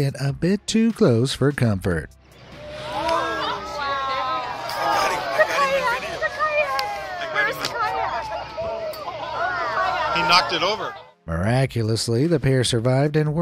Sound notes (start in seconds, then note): 2.5 onlookers gasp and exclaim; 9.9 onlookers exclaiming